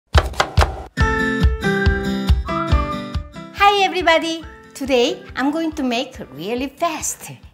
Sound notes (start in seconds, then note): 0.1 upbeat music; 0.2 knife tapping